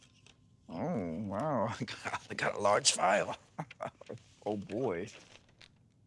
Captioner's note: chuckling